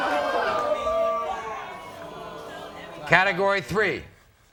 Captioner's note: audience oohs